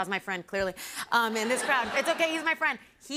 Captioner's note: laughter